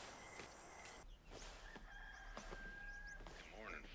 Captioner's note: rooster crows